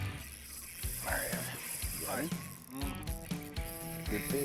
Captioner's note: straining fishing reel